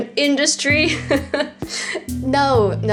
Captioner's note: laughs